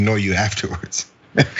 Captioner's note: laugh